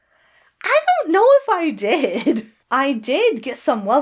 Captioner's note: Hana chuckles nervously